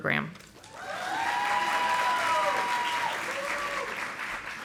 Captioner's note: audience applauding